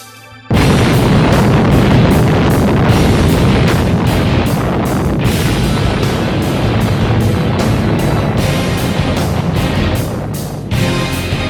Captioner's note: boom